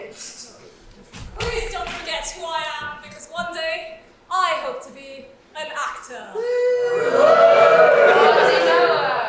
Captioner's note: audience cheers